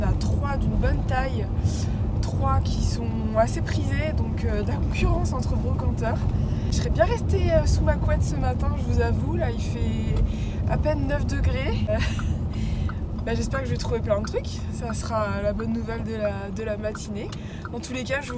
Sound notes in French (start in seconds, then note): 11.8 rire